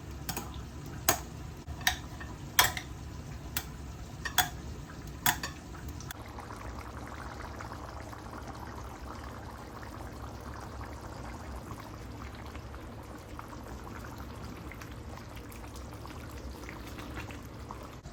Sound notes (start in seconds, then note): 6.6 bubbling tofu asmr